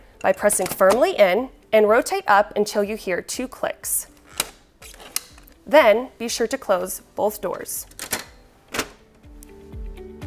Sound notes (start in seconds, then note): 4.6 click click